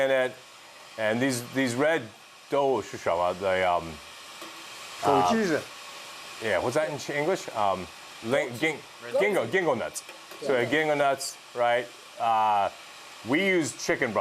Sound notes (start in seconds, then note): 1.9 speaking Mandarin